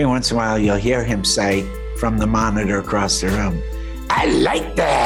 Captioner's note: imitating guillermo